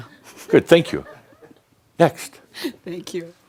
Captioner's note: chuckling; chuckles